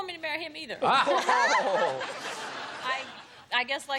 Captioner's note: laughter